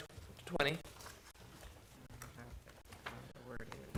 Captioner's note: papers rustling